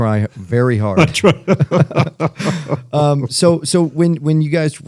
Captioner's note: laughter